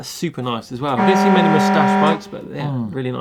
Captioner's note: alarm